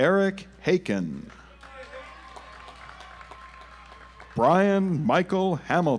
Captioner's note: audience applauds